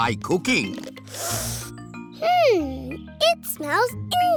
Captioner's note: sniffs